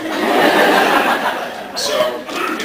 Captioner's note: laughs